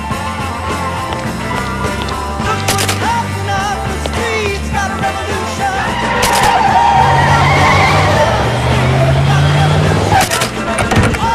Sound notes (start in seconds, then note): 4.8 tires screeching